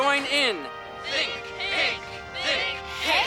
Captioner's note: chanting